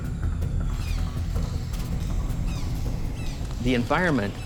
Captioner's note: birds squawking